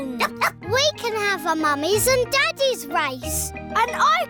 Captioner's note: barks